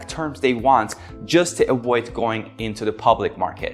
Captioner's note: hands clapping